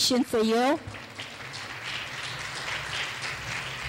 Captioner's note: clapping